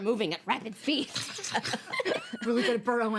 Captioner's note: women laugh